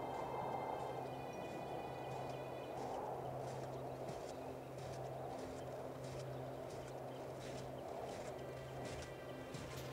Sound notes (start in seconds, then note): 0.1 somber music; 2.2 footsteps plodding